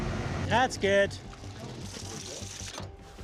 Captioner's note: water running